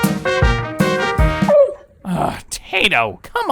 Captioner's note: Tayto barks